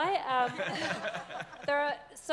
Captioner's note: audience applauds